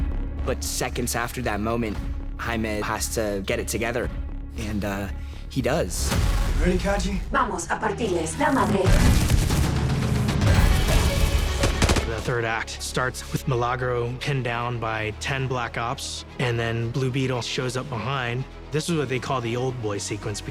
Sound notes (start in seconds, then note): 7.5 in Spanish